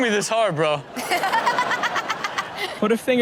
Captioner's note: Chanel and audience laughing